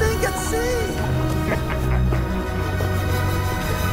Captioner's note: yago sniggers